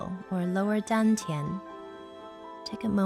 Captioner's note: speaking in foreign language